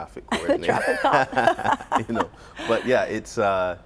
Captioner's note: laughter